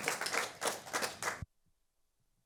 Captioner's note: applause